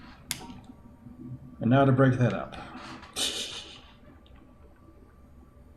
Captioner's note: titters